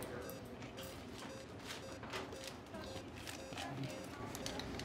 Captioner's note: heart monitor